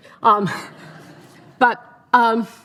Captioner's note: audience laughing